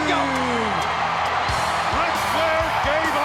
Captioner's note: crowd cheering; upbeat rock music